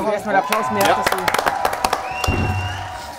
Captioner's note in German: Jubel, Pfiff